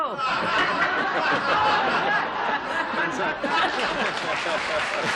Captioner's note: laughing; applause